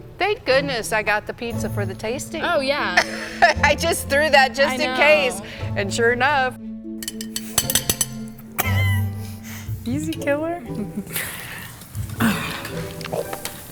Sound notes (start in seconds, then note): 2.8 laughing; 10.6 laughs